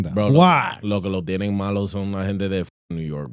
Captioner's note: speaking In Foreign Language